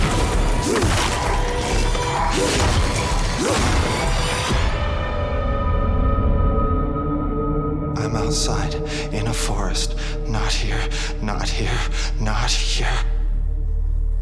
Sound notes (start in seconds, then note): 0.6 grunts and thuds; 8.0 terrified male voice